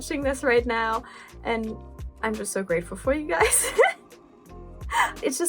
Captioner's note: laugh